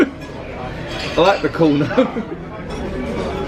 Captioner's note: chuckles